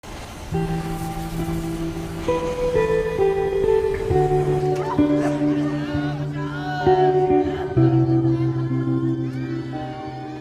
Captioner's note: screaming voices